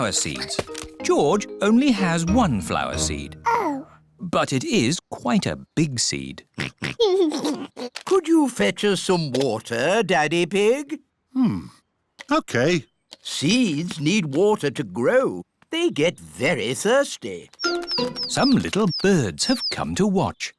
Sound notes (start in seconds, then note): 6.5 oinks and giggles; 17.3 tweeting